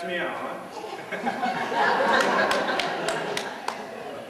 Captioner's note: Tim chuckles; laughter